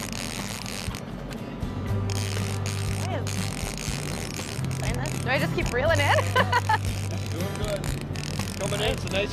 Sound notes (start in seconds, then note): 2.0 line peels out; 5.9 laughs